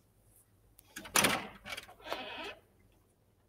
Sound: door handle clicks; door creaks

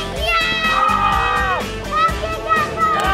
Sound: screaming

